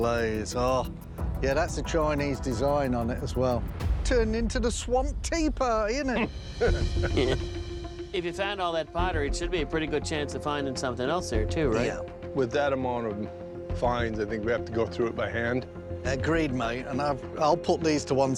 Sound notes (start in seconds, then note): 6.6 chuckles